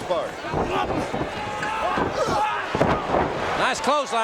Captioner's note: feet thudding